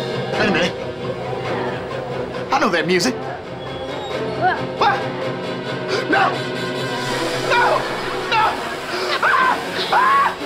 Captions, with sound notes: Hey, man. I know that music. [yelling] No! No! No! [screaming]